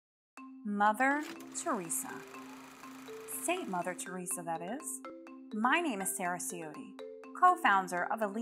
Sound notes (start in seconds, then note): 1.1 instrumental music; 1.2 film reel whirring